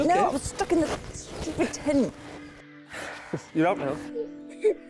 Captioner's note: sighing; both laughing